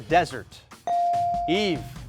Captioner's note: buzzer dinging